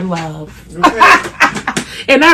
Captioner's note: laughs